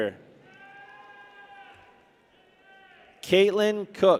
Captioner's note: people cheer